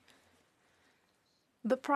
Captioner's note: speaking French